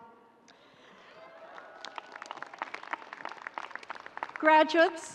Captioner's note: audience cheering